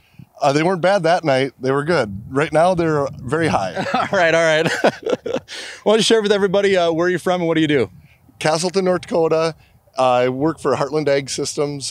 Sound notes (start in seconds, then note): 3.4 laughs; 3.6 laughter